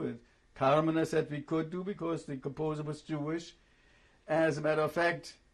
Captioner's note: german